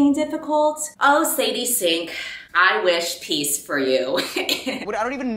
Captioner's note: laughs